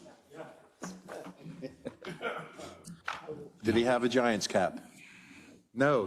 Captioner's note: laugh